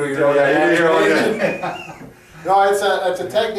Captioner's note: both laughing